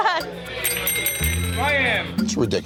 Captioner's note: bell ringing